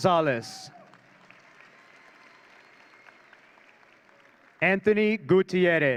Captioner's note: audience cheering